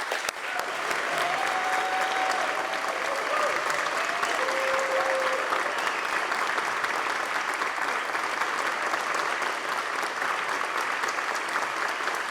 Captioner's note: applause